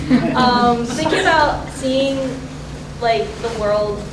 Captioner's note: audience Laughter